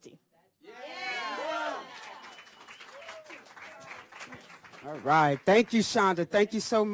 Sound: cheers

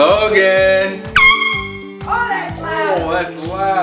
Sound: air horn

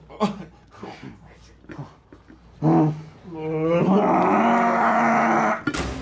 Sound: both groaning; grunts; dramatic music

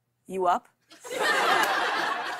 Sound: laughter

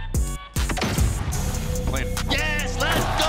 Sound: gaming gun shots

